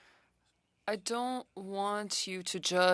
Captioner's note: speaking French